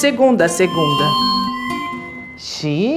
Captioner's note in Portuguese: microfonia